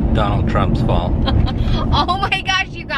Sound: laughs

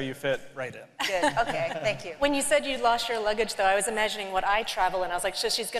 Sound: laughter

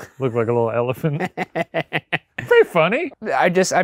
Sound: laughing

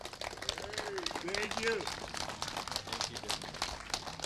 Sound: applause

